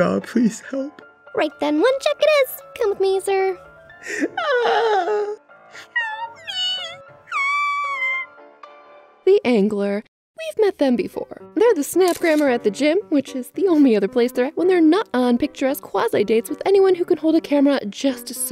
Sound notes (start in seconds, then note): 5.8 gulp; 7.3 squeak, Ahhhhhh